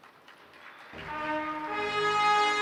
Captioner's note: applause